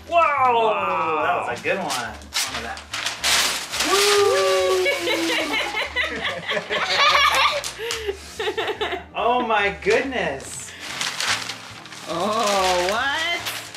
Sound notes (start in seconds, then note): 4.5 laughing